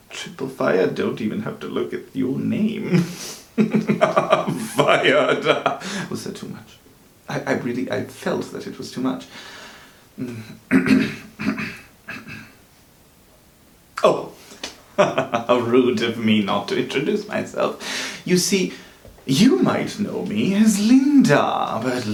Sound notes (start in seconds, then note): 3.4 laughing; 10.2 clears throat; 14.9 laughs